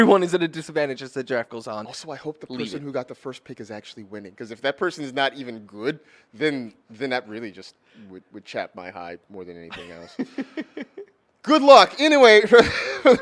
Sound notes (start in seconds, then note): 9.7 laughs